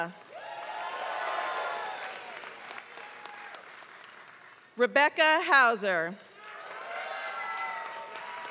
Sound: applause

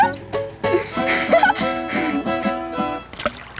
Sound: laughter; fishing line splashes in water

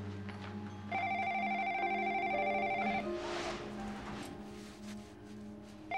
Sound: phone ringing

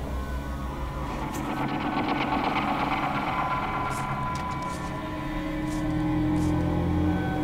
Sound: truck Approaches

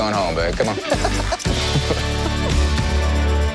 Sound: laughter

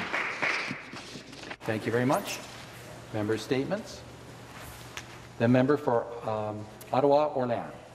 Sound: applause

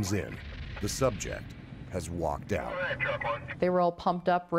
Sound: voiceover

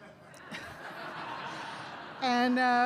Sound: laughter

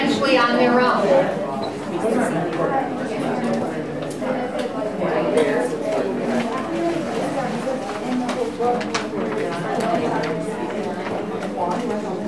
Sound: chatter

